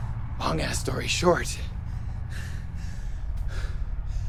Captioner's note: pants